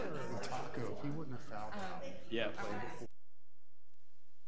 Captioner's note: people chattering